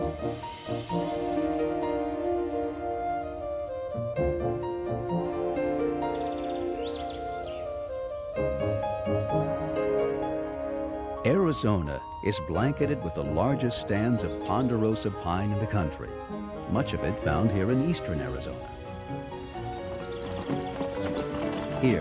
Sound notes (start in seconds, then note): 0.0 happy orchestra music; 5.4 birds chirping; 11.3 voiceover